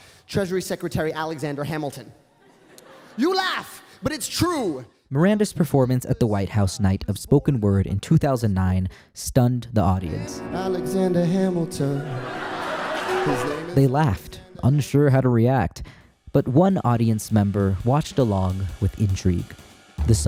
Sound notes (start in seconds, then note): 2.4 audience laughing; 12.0 audience laughing